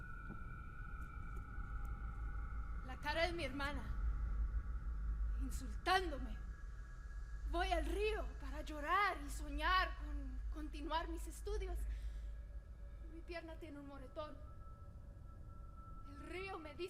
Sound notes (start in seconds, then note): 3.0 speaking Spanish